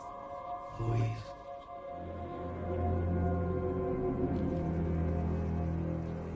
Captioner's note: whispering, without echo